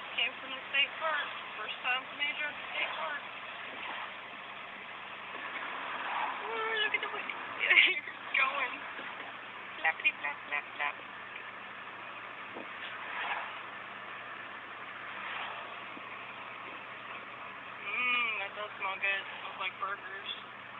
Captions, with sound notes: Just came from Major's 1st time at the State Park! OoooOOooo Look at the Ears goin! (Laughing) Flapity Flap Flap Flap! Mmmm... That does smell good! It smells like burgers.